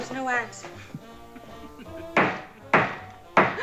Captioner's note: laughing